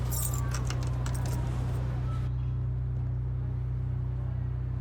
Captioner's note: distant siren wailing